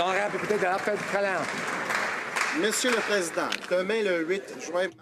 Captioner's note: some Applause